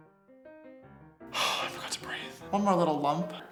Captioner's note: background music; exhales